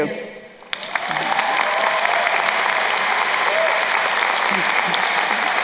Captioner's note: crowd cheering and applauding